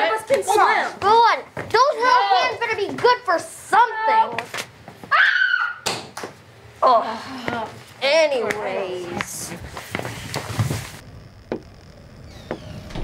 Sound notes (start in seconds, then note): 5.1 scream; 7.0 sigh; 12.3 sound of wind